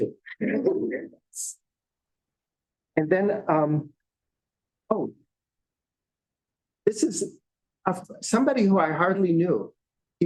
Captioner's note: laughter